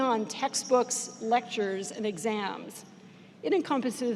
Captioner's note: none